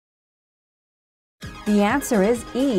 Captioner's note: female announcer speaking